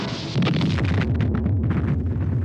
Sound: explosion

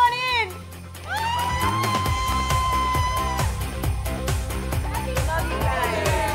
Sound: excited exclaiming

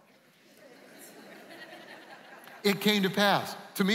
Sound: laughing

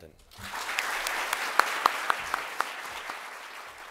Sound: applause

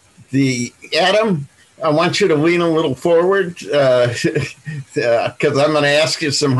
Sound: laughs

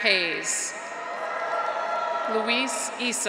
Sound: graduates cheer; audience applauds

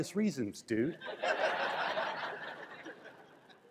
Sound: crowd laughs

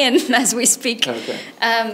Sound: chuckles

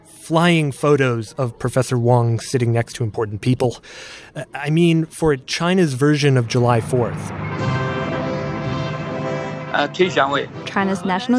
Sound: speaking Mandarin

